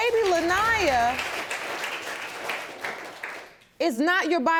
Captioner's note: audience clapping